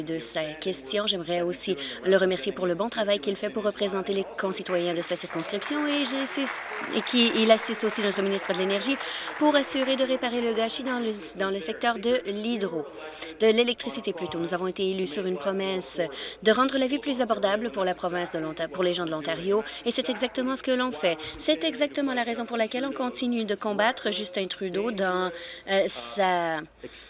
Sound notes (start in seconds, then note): 10.3 applause